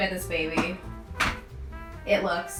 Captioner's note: metal pan clatters